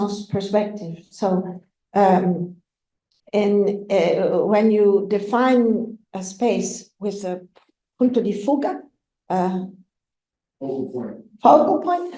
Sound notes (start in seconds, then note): 7.9 italian